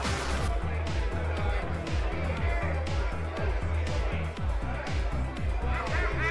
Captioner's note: energetic music; people chattering